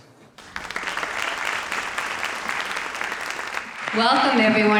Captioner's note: audience applauds